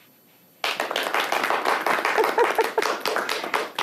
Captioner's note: applause